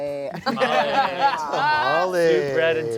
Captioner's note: everyone laughs